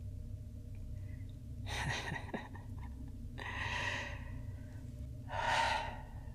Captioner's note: laugh